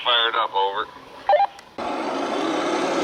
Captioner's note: radio beep